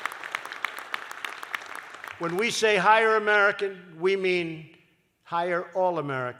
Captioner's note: applause